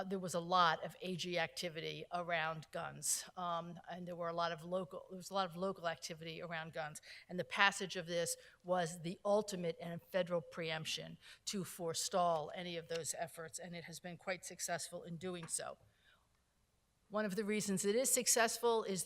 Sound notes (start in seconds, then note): none